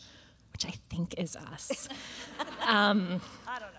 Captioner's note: laughter; laughs